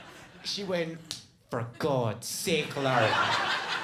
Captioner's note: audience laughs; slaps